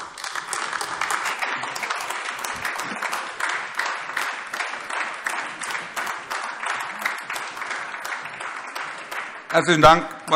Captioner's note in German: Beifall AfD